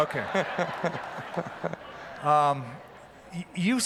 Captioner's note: laughter